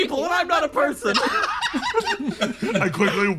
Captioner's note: laughs